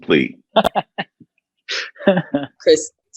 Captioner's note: laughs